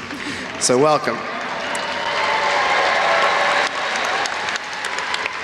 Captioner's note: audience applauds